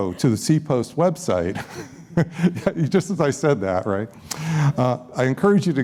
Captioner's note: laughs